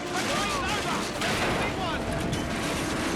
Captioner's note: car imploding; car crashing